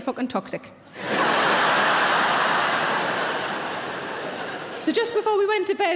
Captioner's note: audience laughing